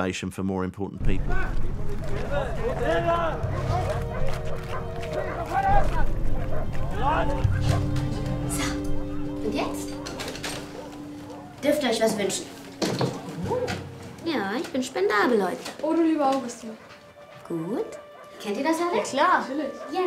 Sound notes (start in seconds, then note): 3.6 dogs barking; 3.6 guards yelling; 16.9 singing in foreign language